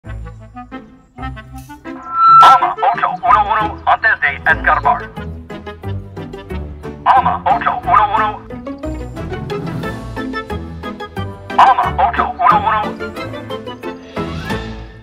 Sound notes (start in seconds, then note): 0.2 música caprichosa; 1.9 chirridos de megáfono